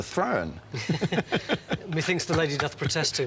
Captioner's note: both men laugh